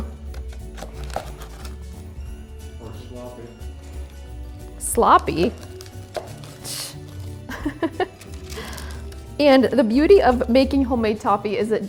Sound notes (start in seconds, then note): 0.1 light music continues; 0.1 toffee continues crunching; 6.1 scoffs; 7.4 laughs